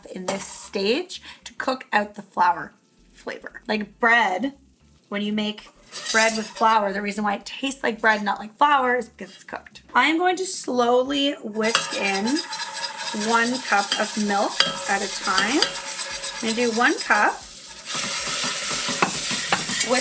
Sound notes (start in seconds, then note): 15.9 metallic scraping; 18.2 food sizzling